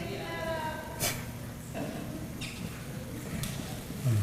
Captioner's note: laugh